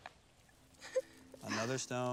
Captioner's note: gentle music; girls giggling